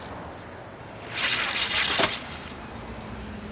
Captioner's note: buzzing